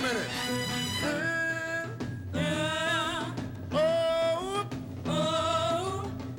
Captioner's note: echoing sounds